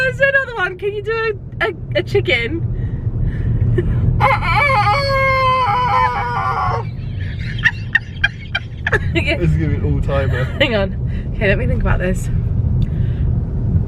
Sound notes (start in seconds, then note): 4.2 crows; 6.5 laughs